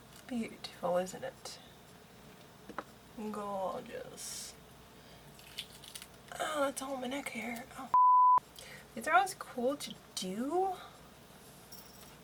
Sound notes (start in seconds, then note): 5.4 ripping